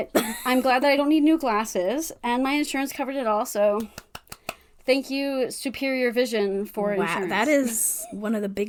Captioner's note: claps